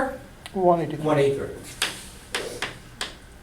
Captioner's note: voiceover